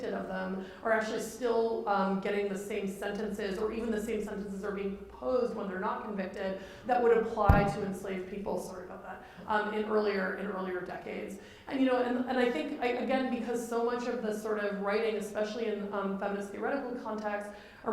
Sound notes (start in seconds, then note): 7.4 bumps mic